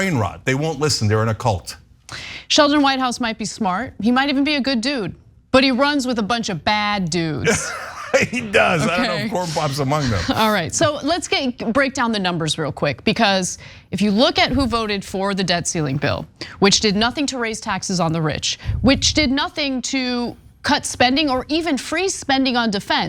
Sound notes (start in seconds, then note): 7.4 laugh